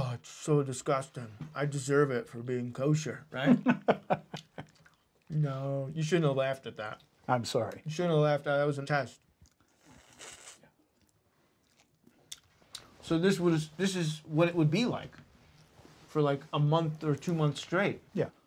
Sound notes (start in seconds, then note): 3.4 laughing; 9.4 slurping; 9.5 mouth smacking